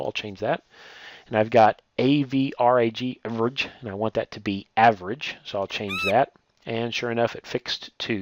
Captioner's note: birds squawking